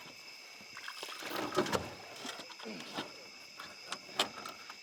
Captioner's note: water splashing